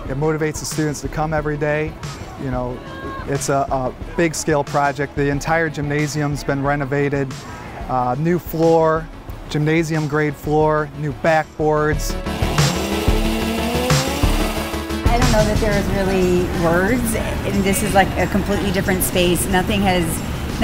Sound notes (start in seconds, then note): 12.1 drill whirling